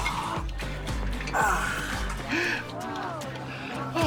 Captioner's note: gasps